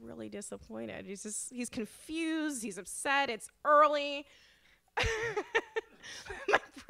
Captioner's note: laughs